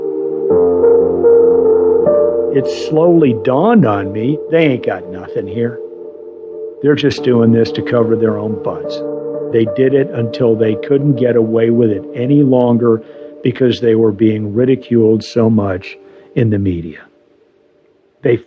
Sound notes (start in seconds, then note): none